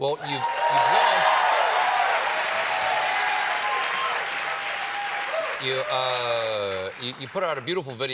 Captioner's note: cheers and applause